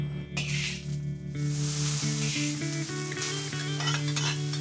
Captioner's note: metal scrapping; pan sizzling; bowl clinking